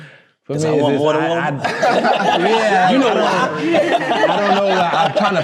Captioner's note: group chattering and laughing